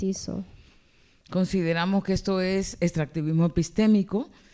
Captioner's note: speaking spanish